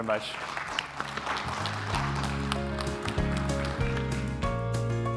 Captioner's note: applause; concluding music